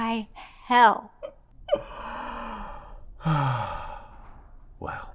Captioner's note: Cornelius laughs and sighs